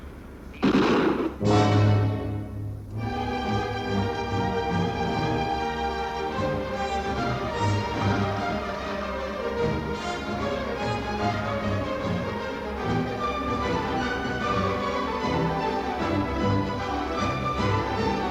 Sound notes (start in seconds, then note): 0.5 guns firing; 3.3 erratic music